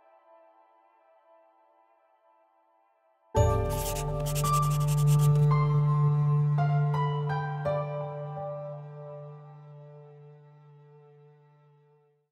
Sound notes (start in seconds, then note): 3.6 pencil scribbling